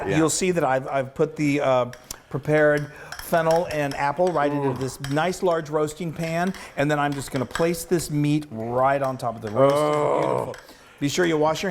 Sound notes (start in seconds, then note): 6.2 spoon scrapping bowl